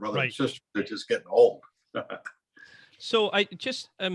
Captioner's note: chuckling